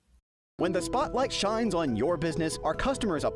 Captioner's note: voiceover